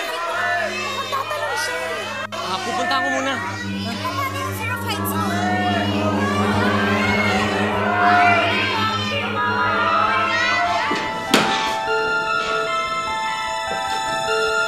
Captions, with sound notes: David, oh, no! It looks like he’s gonna jump! I will go to him, okay? But what about your fear of heights? Whatever! [crowd] Buhawi! Buhawi! Buhawi! Buhawi! Help!